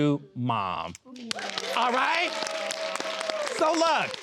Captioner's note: all clapping